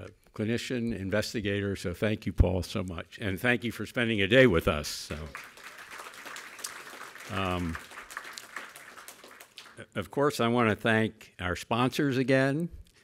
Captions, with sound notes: and a clinician investigator. So, thank you Paul so much and thank you for spending a day with us. (crowd clapping) Of course, I wanna thank our sponsors again.